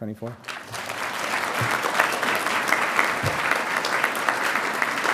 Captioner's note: audience applauding